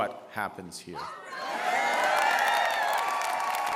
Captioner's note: applause